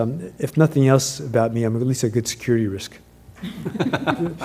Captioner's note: laugh